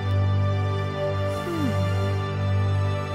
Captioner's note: owl hoots; Princess Oren sighs; dramatic music continues